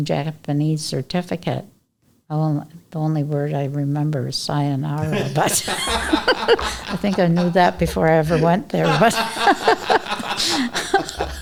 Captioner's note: laughter